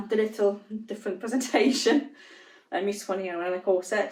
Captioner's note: giggles